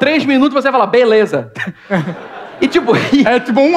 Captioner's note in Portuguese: risos